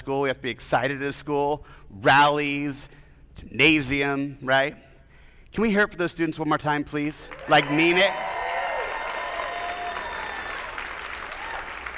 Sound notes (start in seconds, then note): 7.3 attendees applauding; 7.3 attendees cheering